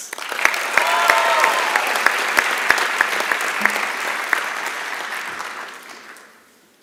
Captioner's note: applause and Cheering